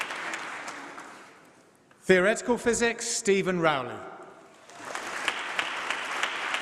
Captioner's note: applause